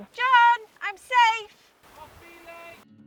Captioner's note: shouts